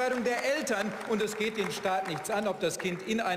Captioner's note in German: Beifall